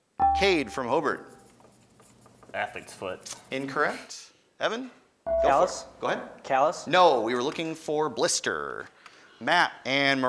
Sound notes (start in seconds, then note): 0.2 ding